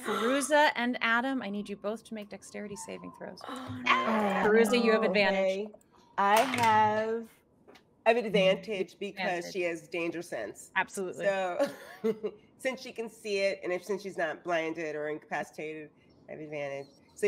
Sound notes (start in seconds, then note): 12.0 laughing